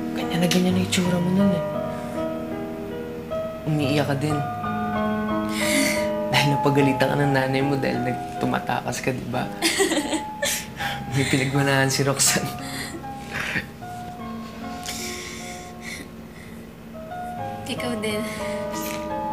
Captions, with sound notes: You looked just like that. -You were crying... -[chuckles] ...because your mom scolded you for trying to run away, right? [laughs] Roxanne got that from you. You too.